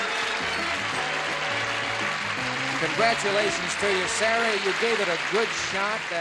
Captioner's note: cheering and applause